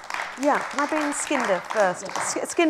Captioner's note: applause